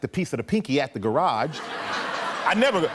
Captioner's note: laughter